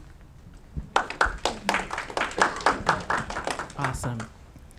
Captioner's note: audience clapping